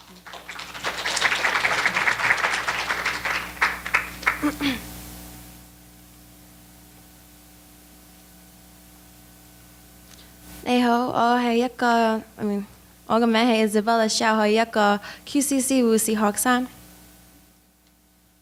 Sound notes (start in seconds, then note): 0.0 applause; 9.7 speaking in foreign language